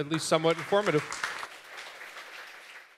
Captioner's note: applause